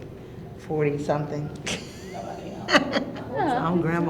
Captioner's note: chuckling